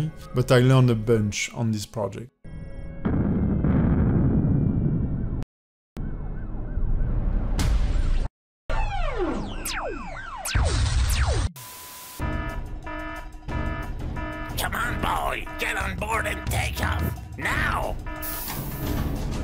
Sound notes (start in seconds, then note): 3.0 explosion; 11.1 alarm